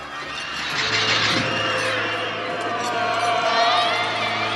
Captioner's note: wind howling